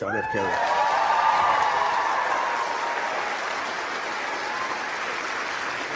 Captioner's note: crowd applauding and cheering